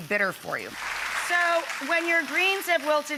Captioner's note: audience applauding